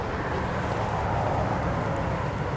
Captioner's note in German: Straßenlärm